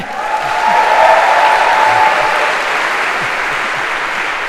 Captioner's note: تشویق، تشویق